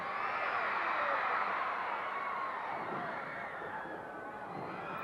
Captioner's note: audience cheering continues